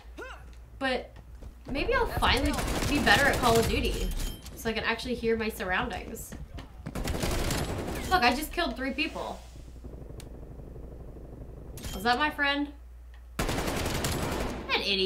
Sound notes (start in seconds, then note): 6.9 gunshots; 13.4 gunshots